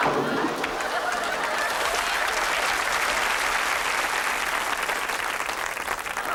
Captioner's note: Wise screams; audience laughs; water splashes; audience applauds